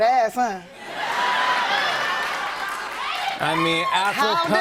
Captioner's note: laughter, cheers, applause